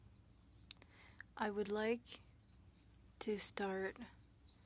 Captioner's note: speaking French